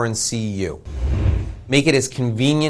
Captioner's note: air whooshing